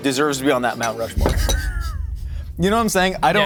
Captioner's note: bowl clinking; stifling laughter